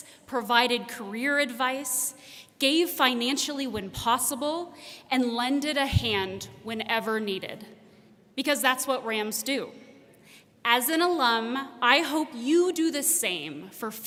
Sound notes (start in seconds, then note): none